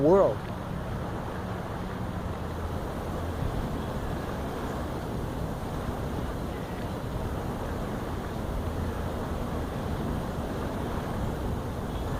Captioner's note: distant birds wind, waves, and rain